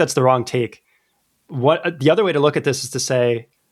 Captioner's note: uh